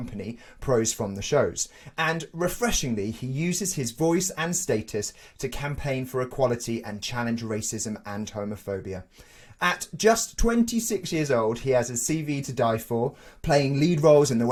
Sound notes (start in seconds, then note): none